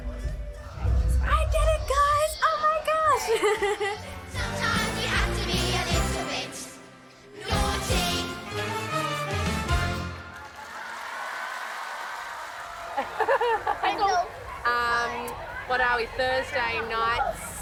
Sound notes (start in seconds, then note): 10.0 cheers